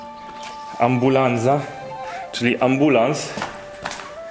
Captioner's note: ambulance